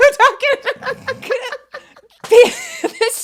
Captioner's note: both giggle